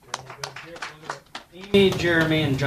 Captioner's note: applause